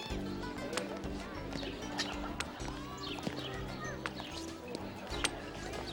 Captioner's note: chatter